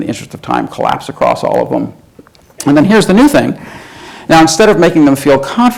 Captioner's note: breathes in